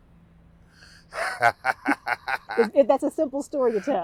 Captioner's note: laughing